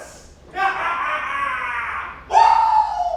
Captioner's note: laughing